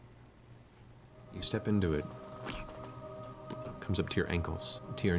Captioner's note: squelch